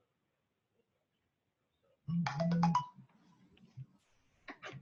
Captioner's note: computer audio notification